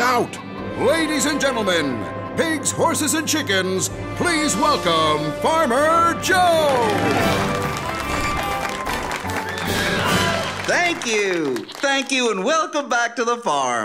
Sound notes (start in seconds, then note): 6.4 applause